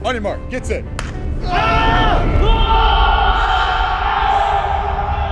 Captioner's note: clap; players shouting